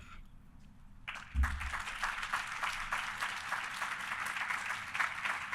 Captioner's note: audience applauding